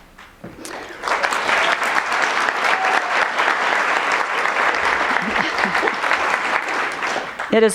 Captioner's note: applause